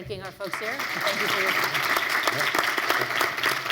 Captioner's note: applauding